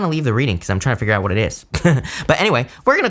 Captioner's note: chuckles